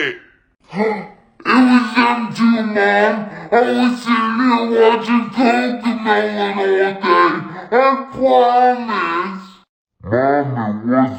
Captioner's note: gasp